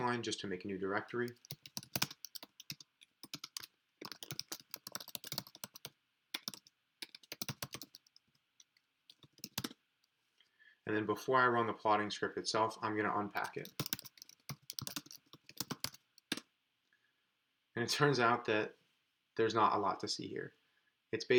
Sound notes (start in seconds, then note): 1.6 keyboard clicking; 13.4 keyboard clicking